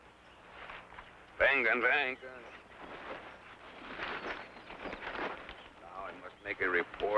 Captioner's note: speaking in foreign language